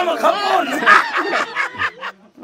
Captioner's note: laughs